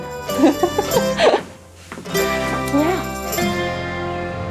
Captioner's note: laughing